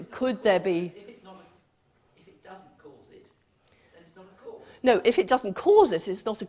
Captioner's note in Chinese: 無聲